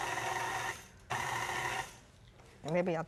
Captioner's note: grinding